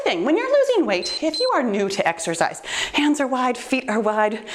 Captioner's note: timer beeps